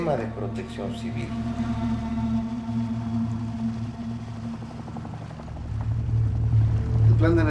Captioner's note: helicopter propeller